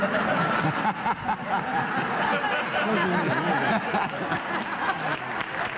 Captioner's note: laughter